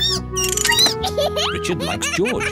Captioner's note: squeaks